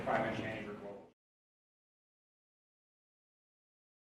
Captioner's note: silence